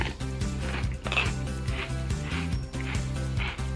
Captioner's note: crunching